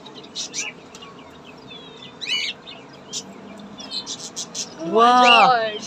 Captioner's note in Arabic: هديل الطيور